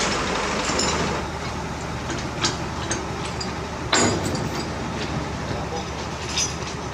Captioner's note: chain rumble